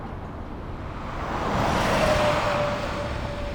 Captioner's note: truck passing